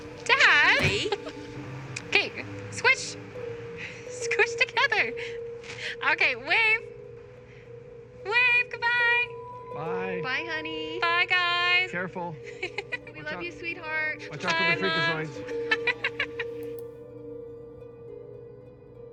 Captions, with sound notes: - Dad! - Charlie! - Okay. Squish. Squish together. Okay, wave! Wave goodbye! - Bye. - Bye, honey. - Bye, guys. - Careful - We love you, sweetheart! - Watch out for the freakazoids. - Bye, Mom! (Emma laughs) (mouse clicks)